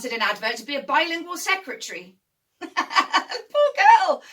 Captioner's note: laughs